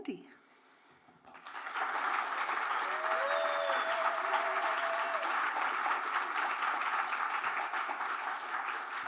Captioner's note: applause